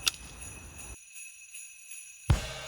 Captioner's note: click